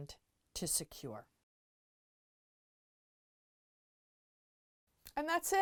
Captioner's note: no Sound Present